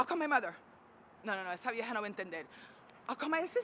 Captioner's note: speaking Spanish